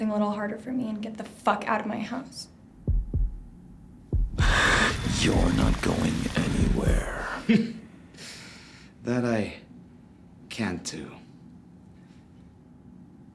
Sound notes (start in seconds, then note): 2.8 heartbeat; 4.8 Demonic voice; 7.5 laughs